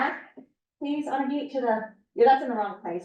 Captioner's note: muffled voice